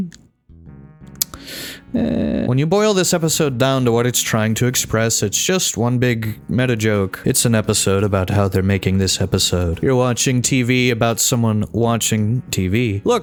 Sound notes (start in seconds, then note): 1.2 lip smack